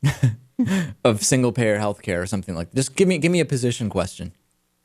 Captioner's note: laughs